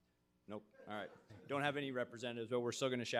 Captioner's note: audience chuckling